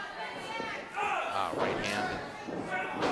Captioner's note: groans